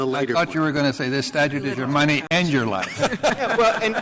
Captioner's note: laughter